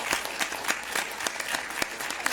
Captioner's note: applause